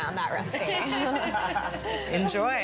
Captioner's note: laughter